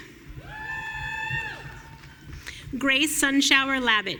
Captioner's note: audience cheering